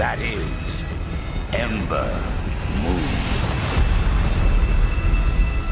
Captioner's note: none